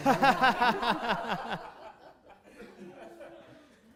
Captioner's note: laughs